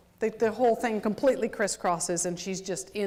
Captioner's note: none